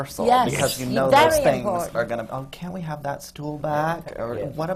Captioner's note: whines